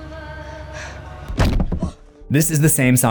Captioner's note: kid gasps